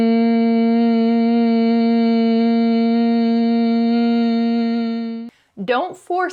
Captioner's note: humming